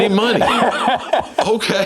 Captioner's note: laughing